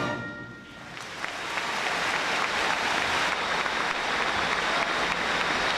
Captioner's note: audience applauding